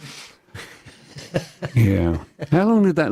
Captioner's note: laughter